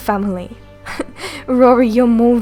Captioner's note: Avila chuckles